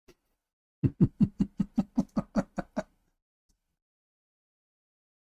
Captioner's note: Ketawa